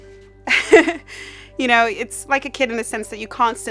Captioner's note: laughs